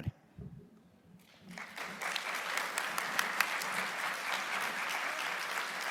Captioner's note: audience applauding